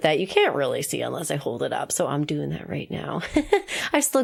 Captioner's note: laughs